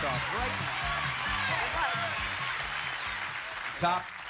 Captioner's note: cheers and applause